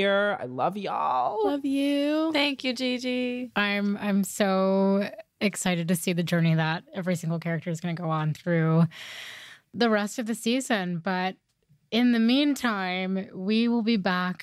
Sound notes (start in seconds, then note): none